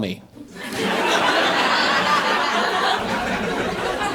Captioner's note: audience laughing